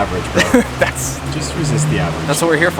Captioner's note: laughs